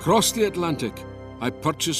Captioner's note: Voz en off